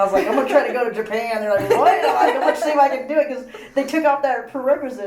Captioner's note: laughs; all laugh